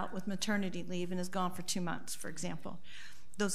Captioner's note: none